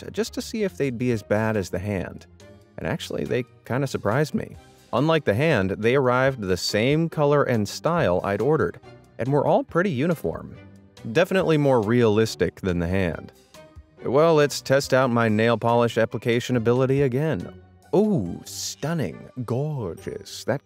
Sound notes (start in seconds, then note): none